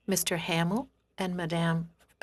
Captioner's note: speaking French